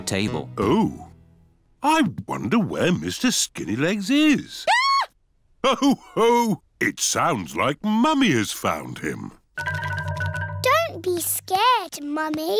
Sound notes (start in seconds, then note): 4.6 mummy pig screams